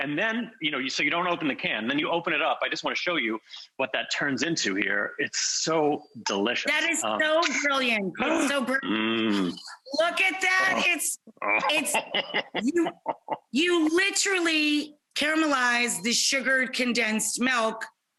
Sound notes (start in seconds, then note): 8.8 gasping; 10.4 laughing